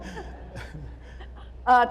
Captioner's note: laughter